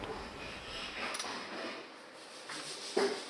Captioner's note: rubbing noise